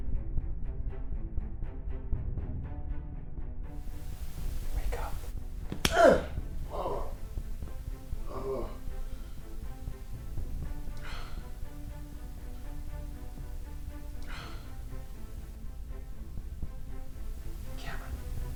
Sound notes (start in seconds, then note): 5.7 groans; 5.8 grunts; 10.0 intense dramatic music